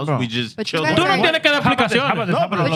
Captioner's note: speaking In Foreign Language